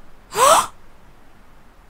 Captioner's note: sucks in air